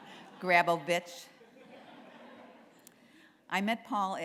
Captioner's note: laughter